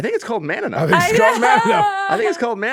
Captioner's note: laughing